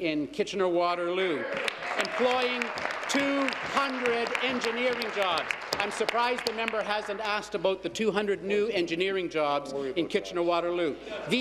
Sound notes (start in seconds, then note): 6.3 applause